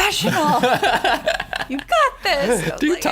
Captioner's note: laughter